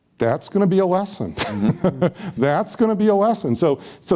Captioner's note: laughs